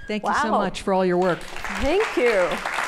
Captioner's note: applause